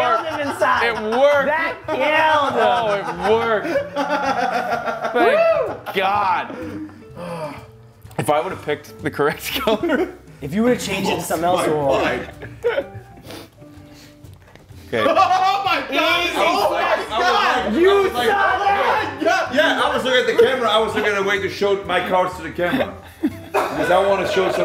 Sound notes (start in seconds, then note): 0.0 laugh; 13.9 laugh